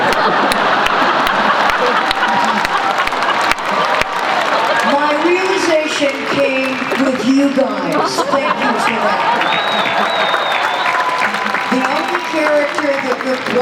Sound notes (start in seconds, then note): 0.0 laughter; 9.5 cheers and applause